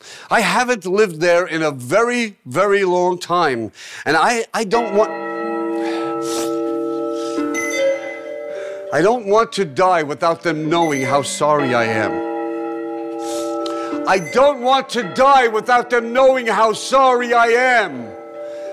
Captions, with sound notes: I haven't lived there in a very, very long time, and I, I don't want [alarm goes off] I don't want to die without them knowing how sorry I am. [alarm continues] I don't want to die without them knowing how sorry I am!